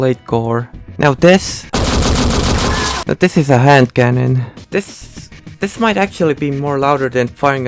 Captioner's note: desert eagle shooting